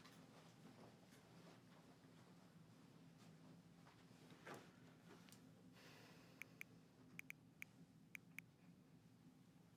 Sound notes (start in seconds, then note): 6.5 typing